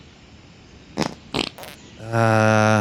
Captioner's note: farting